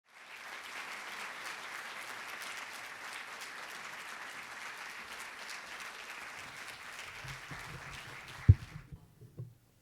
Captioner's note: applause